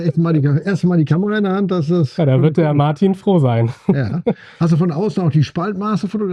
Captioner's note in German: gelächter